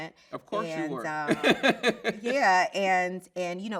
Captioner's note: laughs